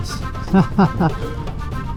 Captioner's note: laughs